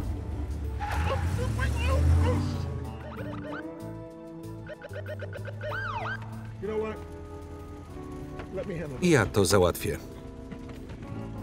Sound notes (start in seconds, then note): 0.0 starts car; 0.0 tires screech; 2.2 sirens